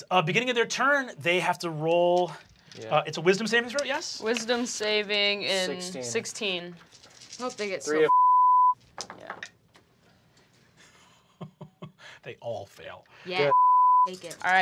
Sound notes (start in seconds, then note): 8.0 beep; 10.8 laughs; 13.4 beep